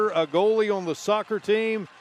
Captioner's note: applause